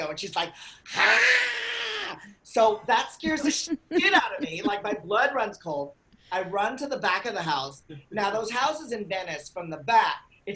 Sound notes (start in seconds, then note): 1.1 hissing